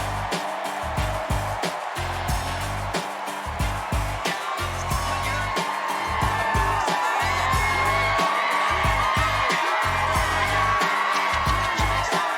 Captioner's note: cheers and applause